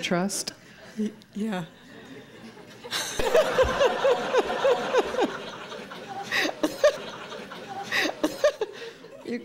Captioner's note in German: Lachen